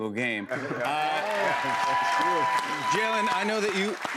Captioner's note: cheers and applause